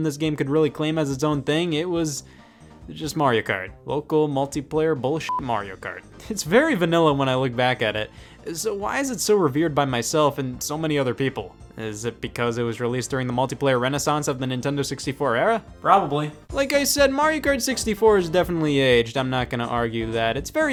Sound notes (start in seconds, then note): 5.2 beep